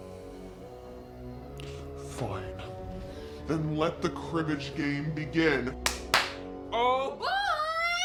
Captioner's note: distorted voice